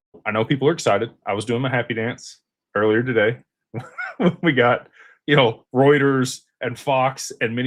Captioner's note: laughter